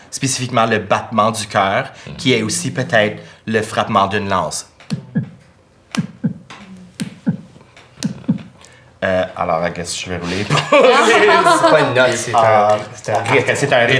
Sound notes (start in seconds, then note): 5.8 muffled beats; 10.2 laughs